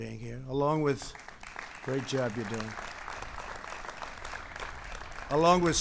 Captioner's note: applause